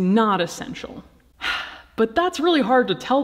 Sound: sighing

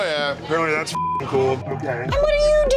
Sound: beeping

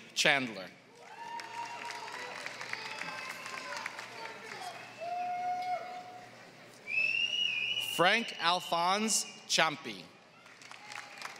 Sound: applause; applause

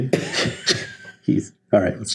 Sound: giggles

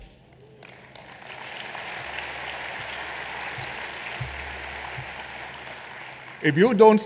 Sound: applause

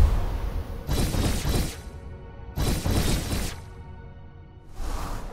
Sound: dramatic music; text whooshing; sword swooshing

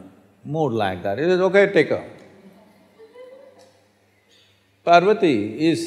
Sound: laughter

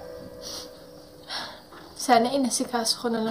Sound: sniffles

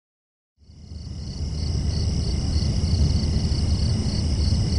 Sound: crickets chirping

